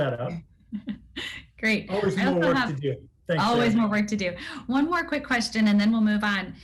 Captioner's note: laugh